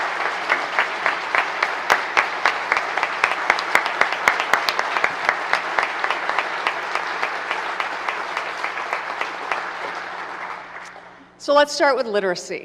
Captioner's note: applause